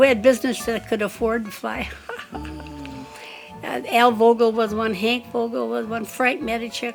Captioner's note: laughs